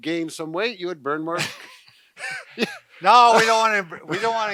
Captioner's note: soft laugh